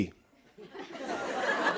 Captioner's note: laughter